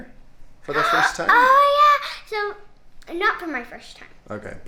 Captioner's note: gasps loudly